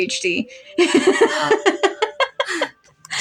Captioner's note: laugh; gasp